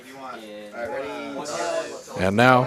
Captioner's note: indistinct chatter